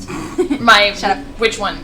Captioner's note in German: kichert